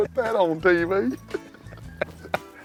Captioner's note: laughter